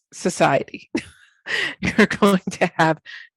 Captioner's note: chuckles